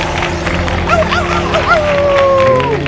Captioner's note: applause; howl